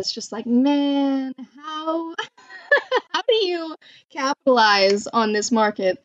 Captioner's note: laughs